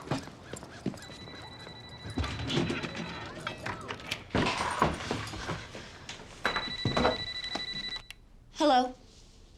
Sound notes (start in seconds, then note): 4.8 panting